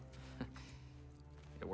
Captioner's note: laugh